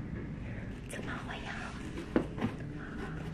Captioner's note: whispering